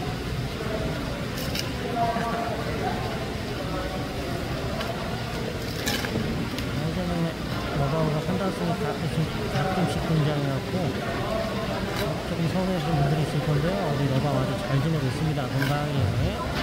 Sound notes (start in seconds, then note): 5.6 crunchy